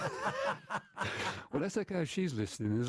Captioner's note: laughter